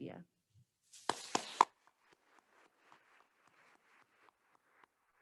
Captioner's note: attendees applauding